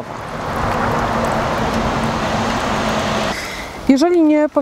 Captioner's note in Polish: odgłos przejeżdżających nieopodal samochodów